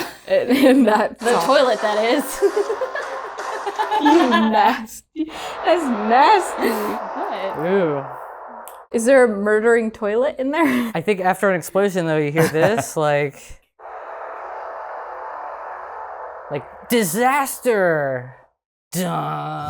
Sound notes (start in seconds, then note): 3.5 laughter; 13.8 suspenseful music